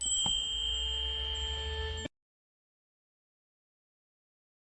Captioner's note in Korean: 종소리